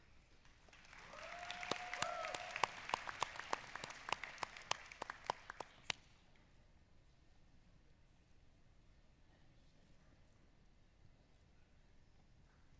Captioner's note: applause